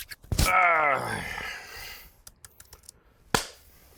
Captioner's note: hands rubbing; gentle groan; keyboard clattering; loud clap